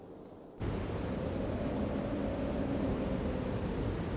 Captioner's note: wind howling